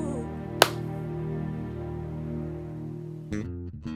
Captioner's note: hand claps; jazz bass music